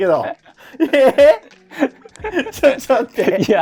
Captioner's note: laughing